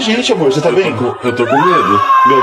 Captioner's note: portuguese dialogue continues